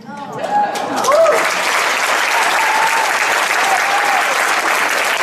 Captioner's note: audience applauds, cheers